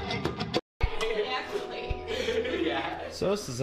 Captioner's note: background chatter